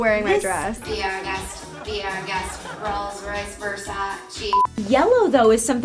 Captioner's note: beep